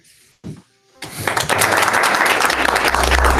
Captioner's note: applause